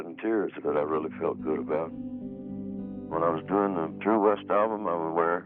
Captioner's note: none